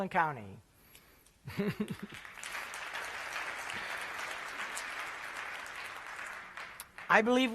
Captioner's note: applause